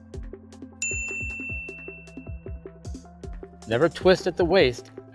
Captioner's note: bell dings